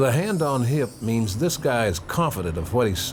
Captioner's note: bells chiming